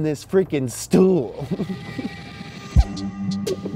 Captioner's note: laughs; music thumping